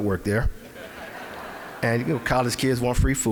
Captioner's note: audience laughing